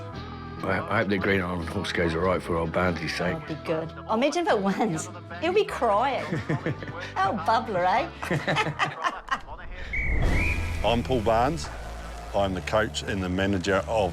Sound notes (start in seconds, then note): 6.1 laughs; 8.1 both laugh; 9.8 whistle blows